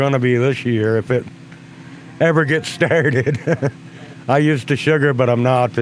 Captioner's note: laughs